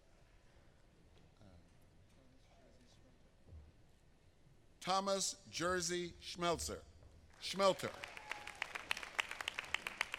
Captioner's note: applause